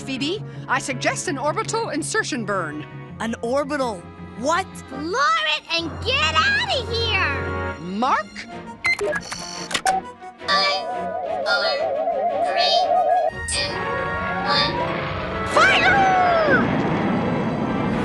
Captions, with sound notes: I SUGGEST AN ORBITAL INSERTION BURN. - AN ORBITAL WHAT? - FLOOR IT, AND GET OUT OF HERE! - MARK. [buttons beeping] - [electronic voice] FIVE, FOUR, THREE, TWO, ONE. - FIRE!